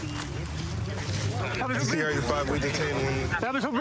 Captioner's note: excited chatter